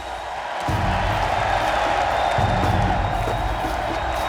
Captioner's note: crowd cheering